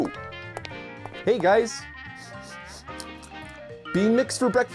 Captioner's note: sniffs and tastes the air